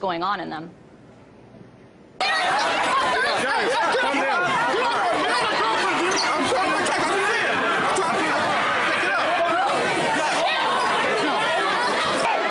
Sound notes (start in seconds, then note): 4.3 crowd noise